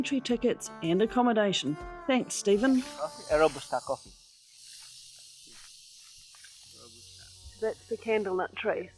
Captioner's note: cicadas singing